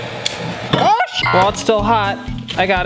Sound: beep

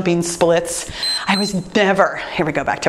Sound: timer beeps

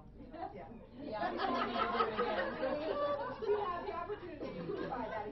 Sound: laughing

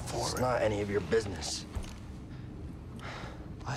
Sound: sigh

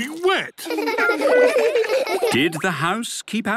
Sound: laughter

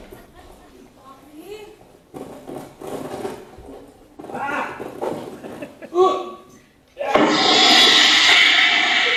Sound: flush sound

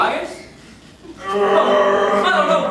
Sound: growling

